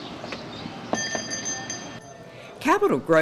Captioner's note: bell dinging